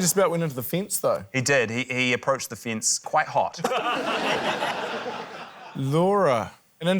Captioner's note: laughter